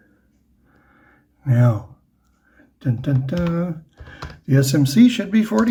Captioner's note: happy noises